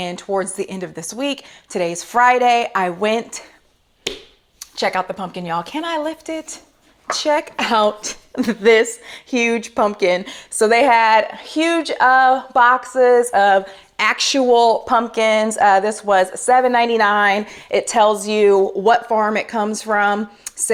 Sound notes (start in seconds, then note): 4.0 smacking pumpkin